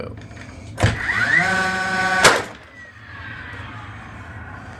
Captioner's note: drill revving